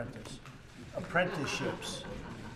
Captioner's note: laughter